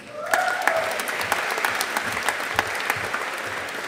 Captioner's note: audience applauding